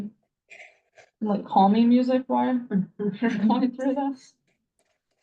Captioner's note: chuckles